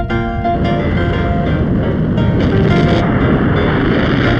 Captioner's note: upbeat music; rocket whooshing